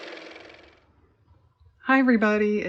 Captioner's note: car motor